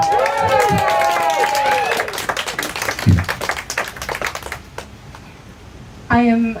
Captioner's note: cheers and applause